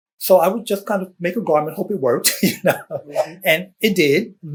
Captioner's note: laughs